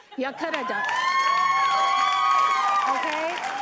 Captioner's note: applause